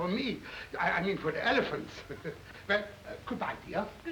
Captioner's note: chuckles